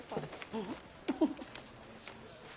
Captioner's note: Coring giggling